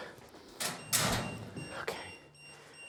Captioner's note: EMF meter beeping